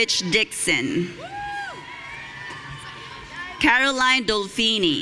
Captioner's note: audience cheering